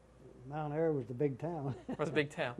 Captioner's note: laughter